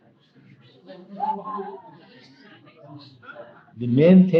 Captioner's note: laughing